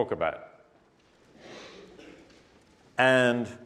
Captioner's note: cough